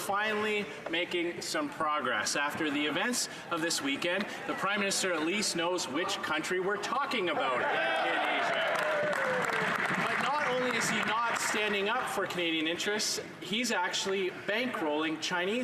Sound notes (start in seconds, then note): 12.1 some Applause